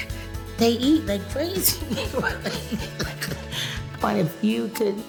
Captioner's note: laughs